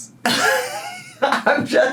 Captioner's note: laughs